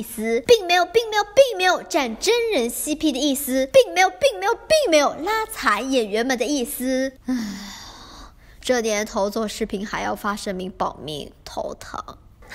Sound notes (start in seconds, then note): 7.2 sighs